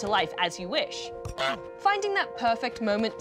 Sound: honks

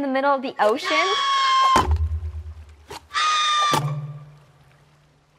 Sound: Hei Hei screaming

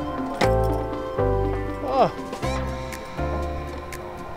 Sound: belt clicks

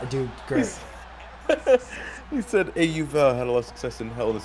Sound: laugh

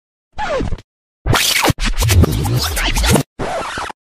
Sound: disc screeching

